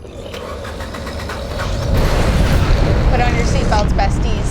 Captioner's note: rocket roaring